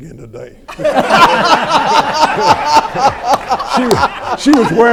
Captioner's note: everyone laughs